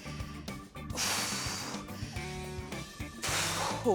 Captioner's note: exhaling